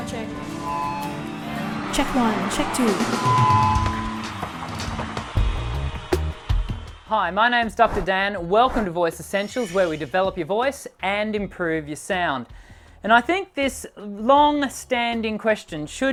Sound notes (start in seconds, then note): 3.2 microphone screeching